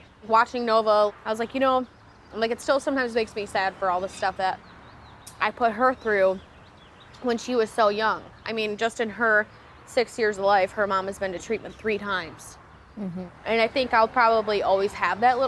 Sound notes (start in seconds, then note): none